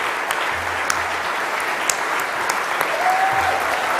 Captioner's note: applause